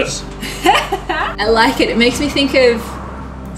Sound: laughter

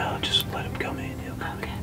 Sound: whispering

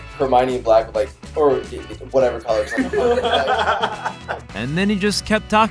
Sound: everyone laughs

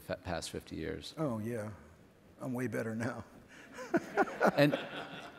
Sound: laughs

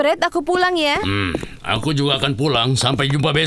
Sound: feet pattering

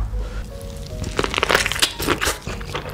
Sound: bone crack ASMR

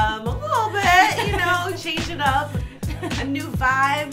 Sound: laughs

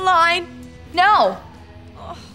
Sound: sighing

